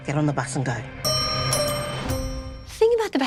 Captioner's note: bell dings